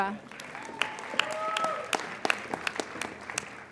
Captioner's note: applauding